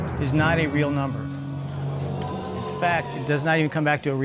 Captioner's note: audience exclaiming